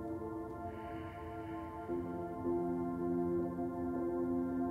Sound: exhales

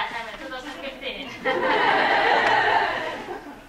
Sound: laughing

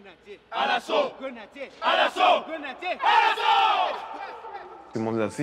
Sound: chanting in French

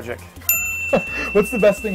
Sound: bell rings

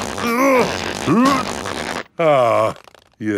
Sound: grunting

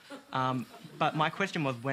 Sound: laughter

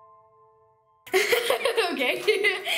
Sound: sad piano music; laugh

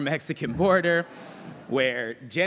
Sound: laughter

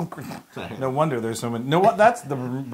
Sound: laugh

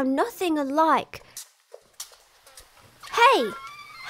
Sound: footsteps

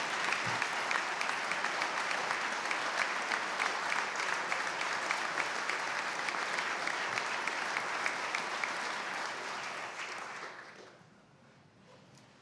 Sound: applause

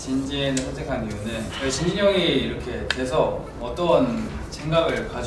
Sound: speaking Korean

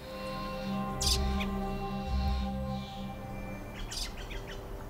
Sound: birds chirping

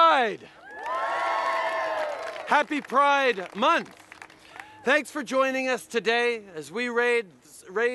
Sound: cheers

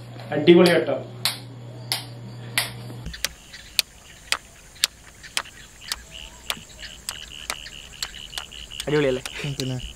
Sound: sound of turning the switch on and off

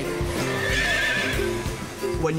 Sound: neighs

